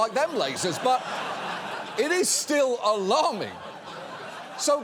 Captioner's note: audience laughs